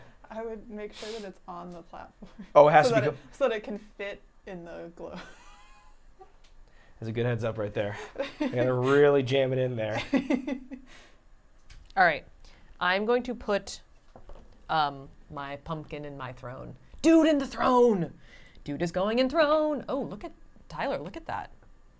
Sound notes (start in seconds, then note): 6.2 laughs; 9.9 laughs